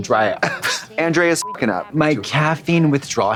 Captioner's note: beep